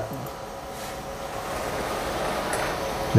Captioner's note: printer machine noise